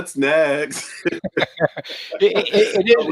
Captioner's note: both laughing